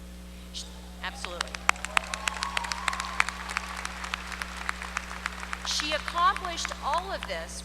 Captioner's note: applause